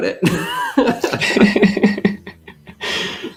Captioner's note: laughter